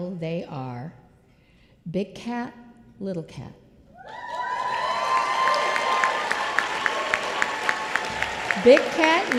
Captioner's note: applause